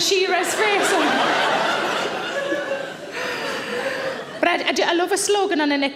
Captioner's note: audience laughs